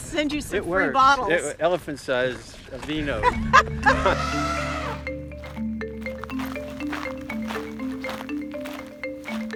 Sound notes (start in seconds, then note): 3.1 laughter; 4.3 upbeat music